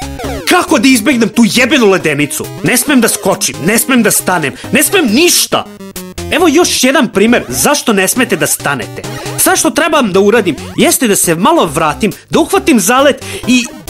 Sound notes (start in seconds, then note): none